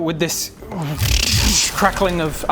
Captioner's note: crackling magic noise